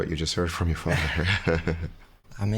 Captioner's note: light laughter